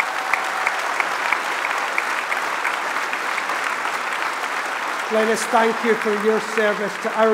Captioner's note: applause